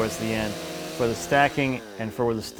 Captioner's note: chainsaw growls